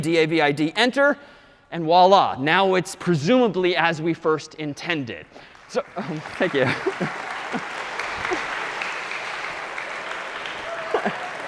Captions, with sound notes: D-A-V-I-D, Enter, and voila. Now it's presumably as we first intended. [APPLAUSE] (LAUGHING) Oh, thank you.